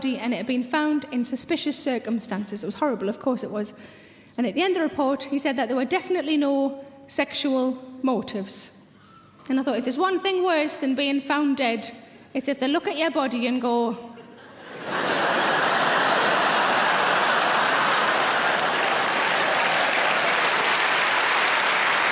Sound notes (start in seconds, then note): 14.2 audience laughing; 18.8 audience clapping